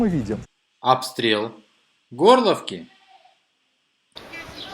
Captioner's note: The shelling by the Ukrainian Army